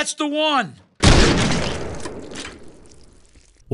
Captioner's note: earth shattering shotgun blast